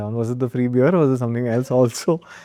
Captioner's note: chuckles